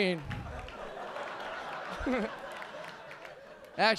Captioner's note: audience laughing